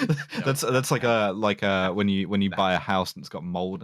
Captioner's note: laughs